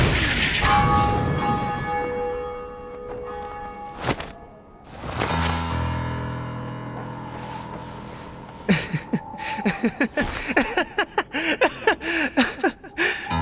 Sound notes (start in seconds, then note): 0.6 bell ringing; 8.6 laughing